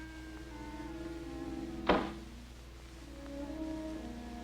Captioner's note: door closing